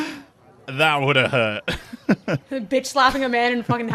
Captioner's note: laughs